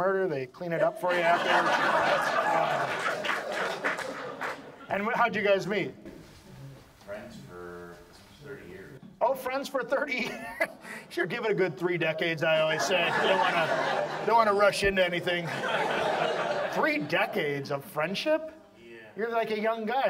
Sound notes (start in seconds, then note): 4.8 audience laughs; 10.2 laughs; 12.6 audience laughs